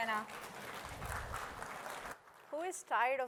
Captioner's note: applause